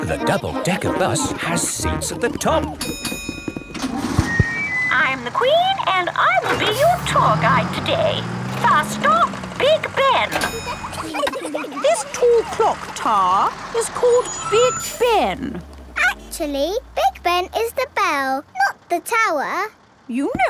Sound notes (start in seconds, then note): 2.7 bell dings; 10.1 kids giggling